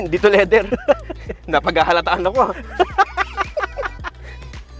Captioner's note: laughs